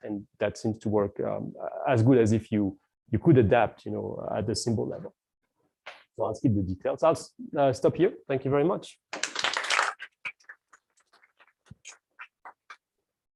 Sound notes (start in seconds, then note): 9.2 applause